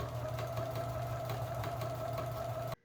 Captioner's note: sound of sewing machine